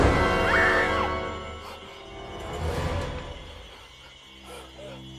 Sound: dramatic music; Ryder screams

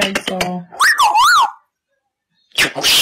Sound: whistling

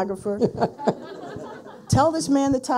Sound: people laughing

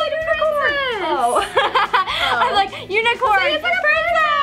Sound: laughs

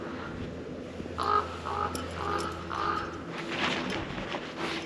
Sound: crow cawing

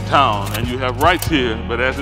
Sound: slide clicks

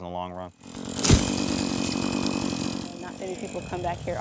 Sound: thud

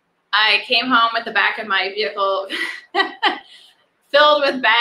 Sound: laughs

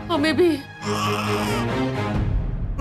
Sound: baby coos

